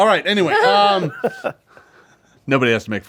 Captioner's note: group laughs